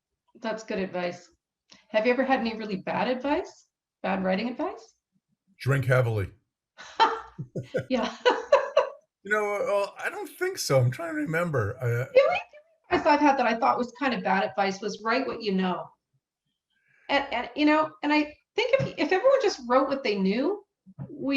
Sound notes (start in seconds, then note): 7.4 laughs